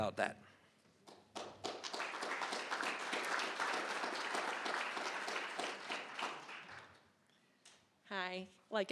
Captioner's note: applause